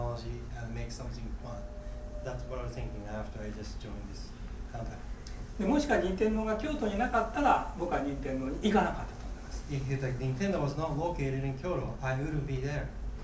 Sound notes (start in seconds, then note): 5.7 speaking in foreign language